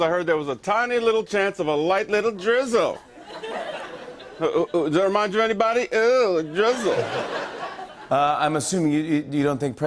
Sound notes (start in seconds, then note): 2.8 light laughter; 6.4 laughter